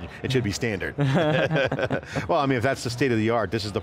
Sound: both laughs

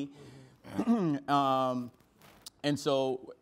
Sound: clears throat

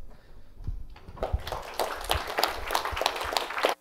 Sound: applause

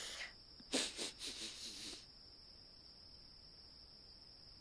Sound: dog hisses; dog sniffs; crickets

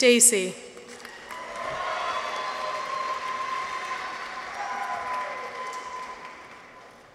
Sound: audience applauds; people cheer

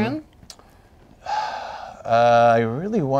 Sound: sighs

